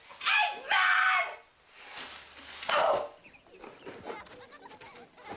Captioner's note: groaning; children laughing